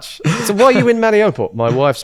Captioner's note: laughs